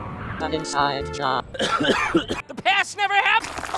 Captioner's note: coughing